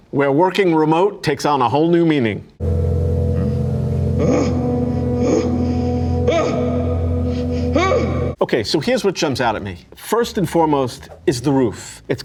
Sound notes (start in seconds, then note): 2.6 suspenseful music; 4.3 Jack screaming